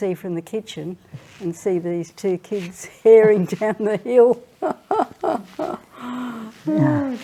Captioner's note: laughs